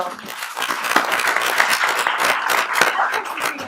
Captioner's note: applauding